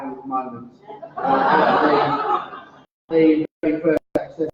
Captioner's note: laughter